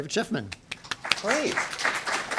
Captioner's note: applause